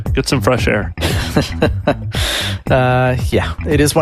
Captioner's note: laughs